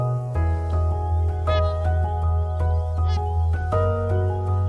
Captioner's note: swans trumpeting